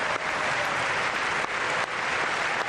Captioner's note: applause